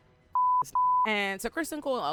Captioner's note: beep